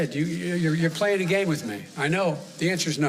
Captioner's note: off-mic